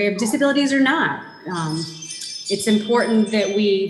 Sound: bright jingling

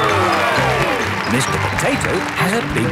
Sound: cheering

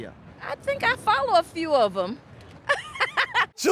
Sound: laughs

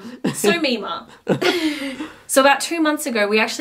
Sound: laughs

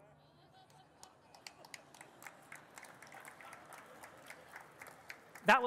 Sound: audience laughing and clapping

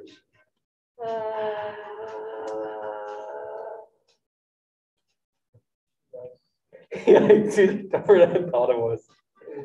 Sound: student exclaims in confusion; group laughing

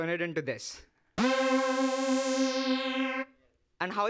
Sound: loud synthesized buzzing

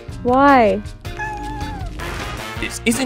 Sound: meowing

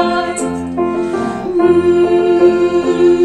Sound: humming

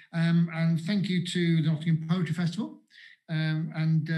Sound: none

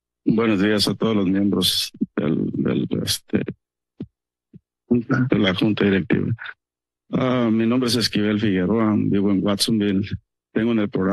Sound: foreign language

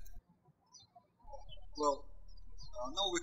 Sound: birds chirping

